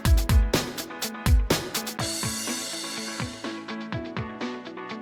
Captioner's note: the train waiting to leave is slowly approaching